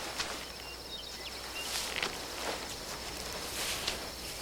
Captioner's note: chirping of birds